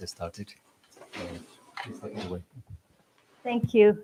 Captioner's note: chatter